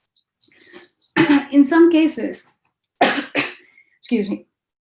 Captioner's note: coughs